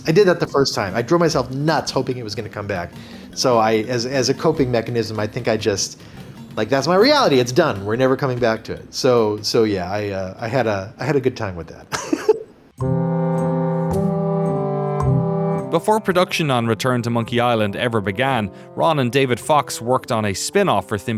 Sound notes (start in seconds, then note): 11.9 chuckles